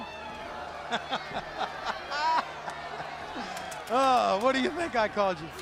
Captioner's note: crowd chatter